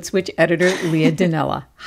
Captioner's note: laughter